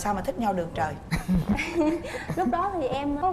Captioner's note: laughing